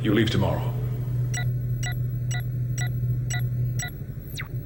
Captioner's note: computer beeps